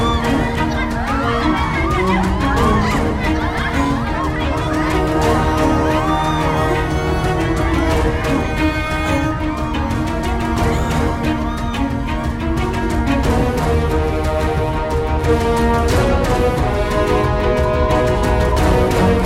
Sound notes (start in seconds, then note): 0.1 screams; 5.1 screams